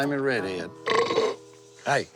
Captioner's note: burp